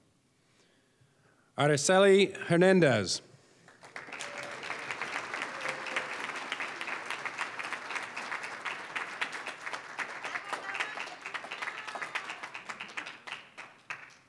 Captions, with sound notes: Araceli Hernandez. (applause)